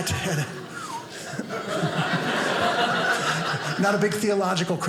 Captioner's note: audience laughing